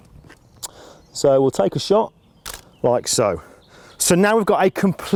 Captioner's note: camera click